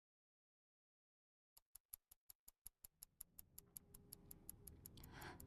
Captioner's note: clock ticking